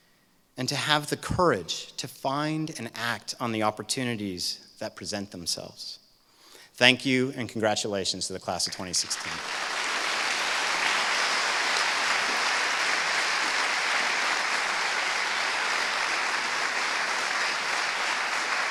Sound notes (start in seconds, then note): 9.1 applause